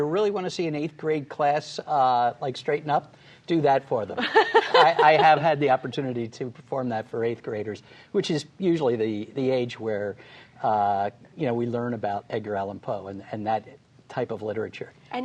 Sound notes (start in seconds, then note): 6.4 laughter